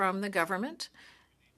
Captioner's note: speaking French